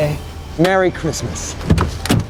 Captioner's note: door unlatching